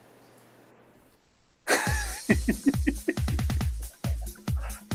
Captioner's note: giggling